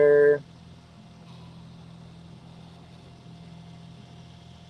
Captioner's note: printer whirring